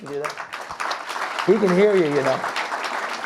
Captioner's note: audience clapping